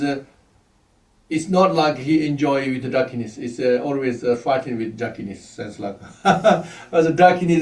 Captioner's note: laughs